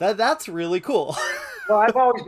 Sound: laughing

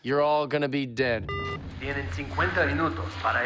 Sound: beeping

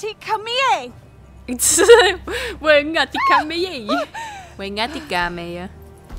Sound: laughing

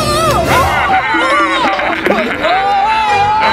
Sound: screams

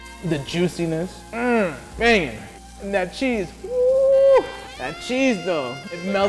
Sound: groans

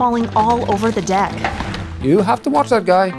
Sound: air whooshing

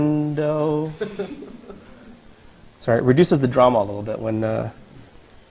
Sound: laugh

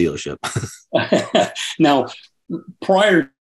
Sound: chuckles

